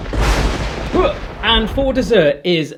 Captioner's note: thunder